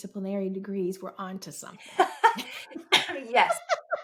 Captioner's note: both laughing